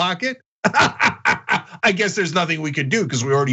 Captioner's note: laugh